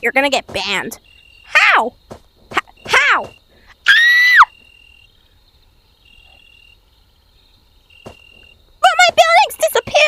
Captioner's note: screams for no reson